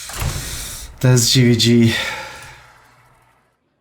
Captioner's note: laughs; sighs